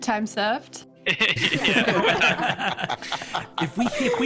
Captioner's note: all hearty laughter